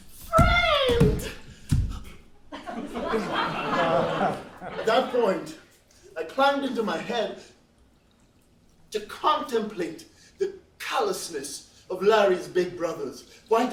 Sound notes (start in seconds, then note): 2.6 laughs